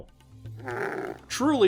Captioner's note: camel noise